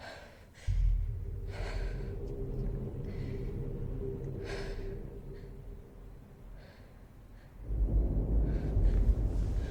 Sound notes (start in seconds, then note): 0.6 panic breathing